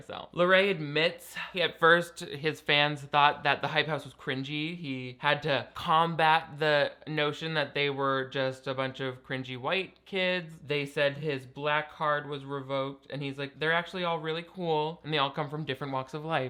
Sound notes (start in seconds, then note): none